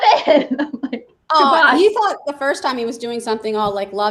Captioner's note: laughs